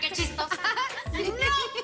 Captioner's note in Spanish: Risas